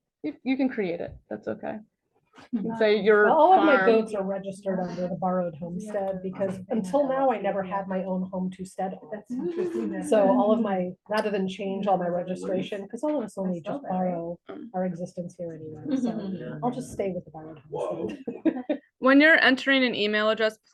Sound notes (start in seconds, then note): 17.8 chuckles